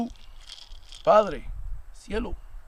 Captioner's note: rattle shakes; speaking Spanish language